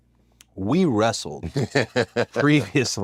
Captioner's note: laugh